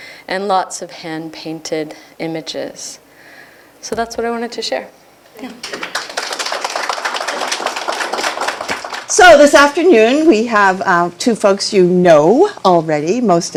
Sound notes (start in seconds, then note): 5.6 applause